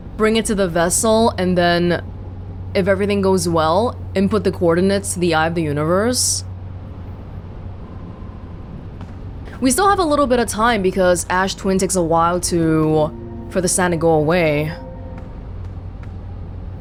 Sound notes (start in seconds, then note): none